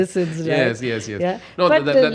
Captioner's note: laughs